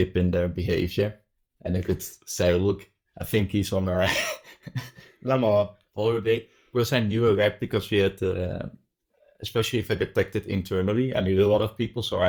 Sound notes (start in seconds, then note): 4.0 laughs; 5.3 speaking french